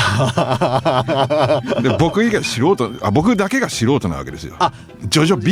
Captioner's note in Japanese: 笑い